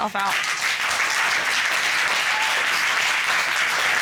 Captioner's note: applause